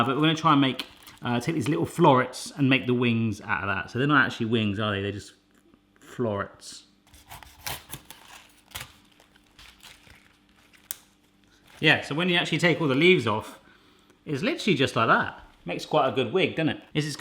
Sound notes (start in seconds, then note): 7.5 crunching